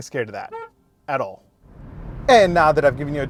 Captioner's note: horn honking